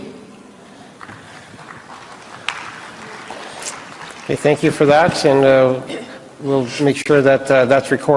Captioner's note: applause